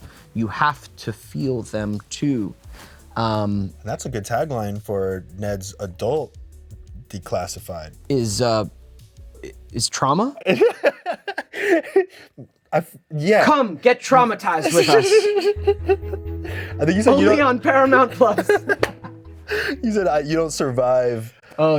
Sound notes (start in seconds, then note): 10.4 Anthony laughs; 14.6 Anthony laughs; 18.2 both giggle